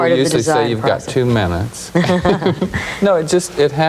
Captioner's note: laughing